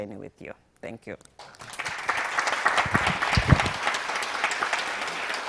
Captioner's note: audience applauding